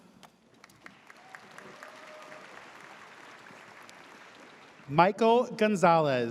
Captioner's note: audience cheers